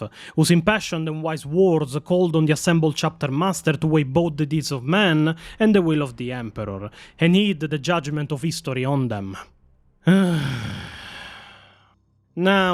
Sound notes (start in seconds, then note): 10.0 sigh